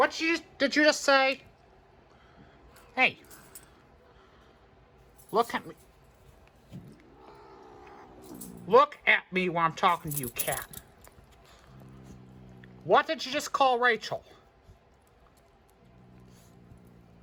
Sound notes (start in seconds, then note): 2.8 Caprice growls